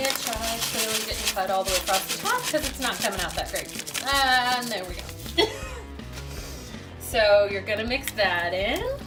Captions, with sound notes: which I clearly didn't cut all the way across the top 'cause it's not coming out that great. And there we go. (laughs) So, you're gonna mix that in.